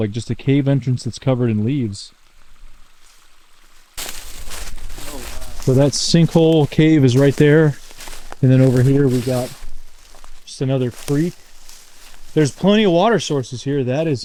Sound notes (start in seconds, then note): 2.9 water trickling; 4.2 leaves rustling